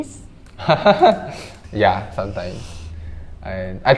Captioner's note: laughing